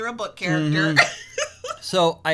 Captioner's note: laughs